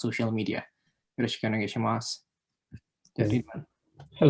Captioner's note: spoken in Japanese